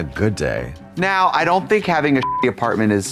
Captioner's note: beep